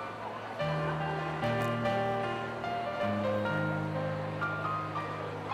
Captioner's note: crowd chattering